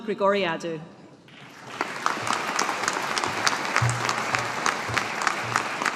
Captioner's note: audience applauding